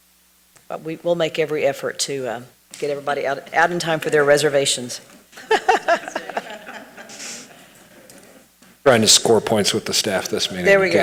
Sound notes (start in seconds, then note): 5.3 laughs